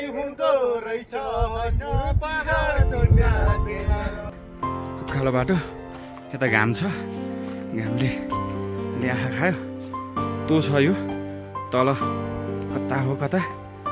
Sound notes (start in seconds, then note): 4.7 panting